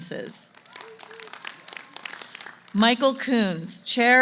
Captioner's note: applause